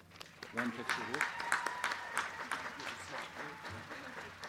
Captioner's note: crowd cheering